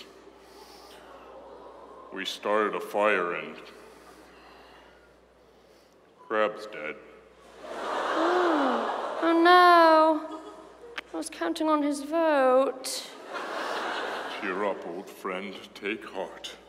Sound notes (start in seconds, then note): 7.5 audience awww's; 13.2 audience laughs